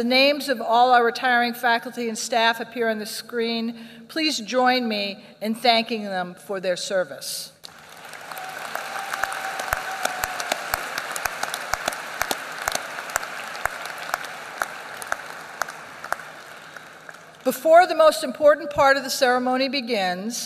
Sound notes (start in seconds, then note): 7.6 applause